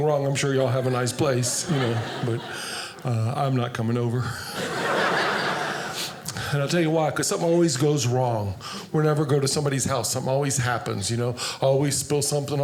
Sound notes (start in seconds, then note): 4.5 audience laughing